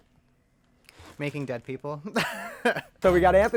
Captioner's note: laughs